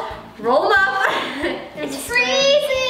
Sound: laughs

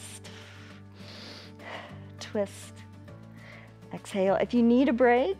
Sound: exhales and inhales

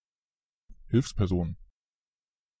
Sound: fast Pronunciation

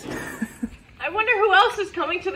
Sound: woman chuckles

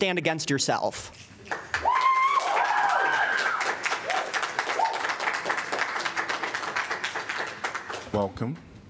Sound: applause

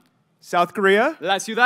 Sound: speaking in Spanish

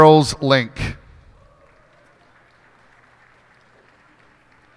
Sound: cheers and applause

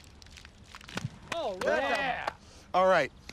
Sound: group cheering

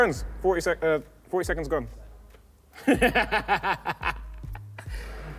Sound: laughs

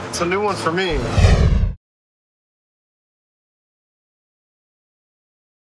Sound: swoosh

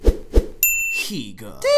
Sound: air whooshing; ding

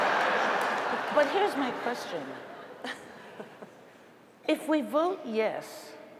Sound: laughter

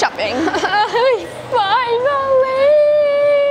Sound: imitates crying

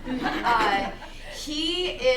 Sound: laughing

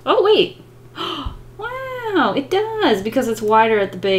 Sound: gasps

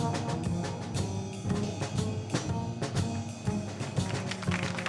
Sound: cheers and applause

